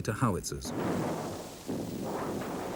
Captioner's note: howitzer blasts; shell booms